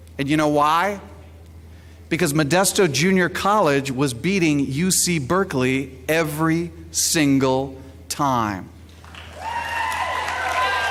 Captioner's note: applause